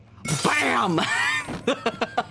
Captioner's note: glass shatters; laughs